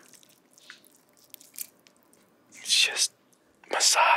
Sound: squishes

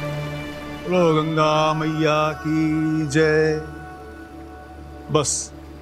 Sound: chanting

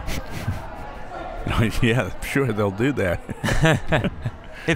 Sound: laughs

